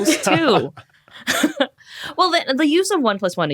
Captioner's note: group cracks up